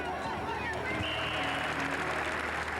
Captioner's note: applause; referee whistle